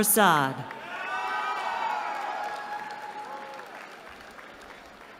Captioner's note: cheering